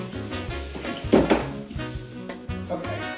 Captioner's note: thud